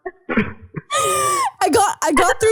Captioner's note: laughing